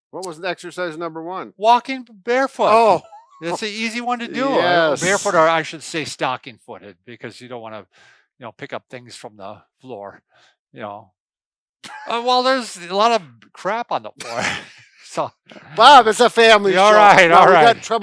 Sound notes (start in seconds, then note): 11.9 laughs; 14.2 laughs